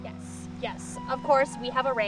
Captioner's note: none